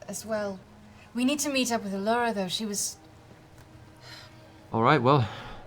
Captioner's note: sighs